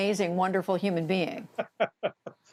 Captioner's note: laughter